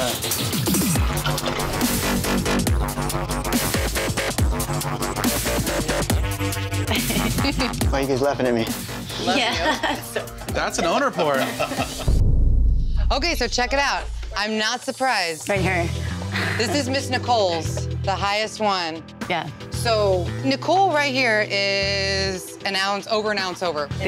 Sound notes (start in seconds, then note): 0.1 dramatic music; 9.3 employees chuckling